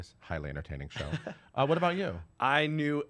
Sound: laughs

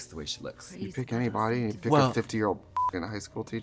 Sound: beep

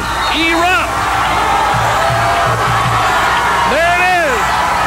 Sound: crowd cheers

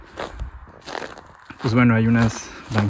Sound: steps

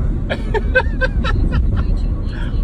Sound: laughs

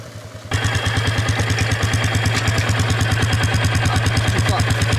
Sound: engine growling

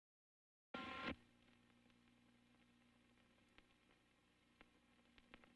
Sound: old film static

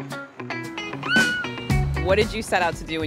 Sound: child squeals

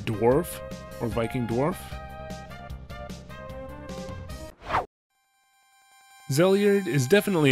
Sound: whoosh

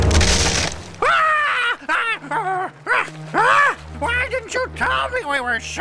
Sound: צורח

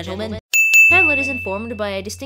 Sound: ding!

